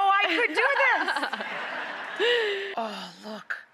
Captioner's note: audience laughs